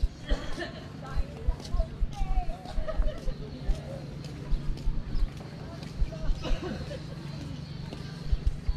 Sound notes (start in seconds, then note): 2.5 laughing